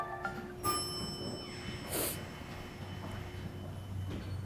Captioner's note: elevator dings